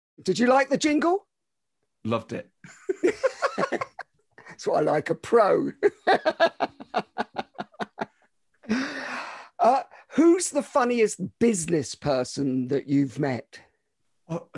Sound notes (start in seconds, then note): 2.8 laughing; 5.8 laughs